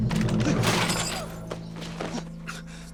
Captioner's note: thud sound